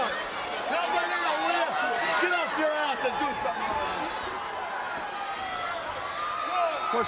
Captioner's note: crowd cheering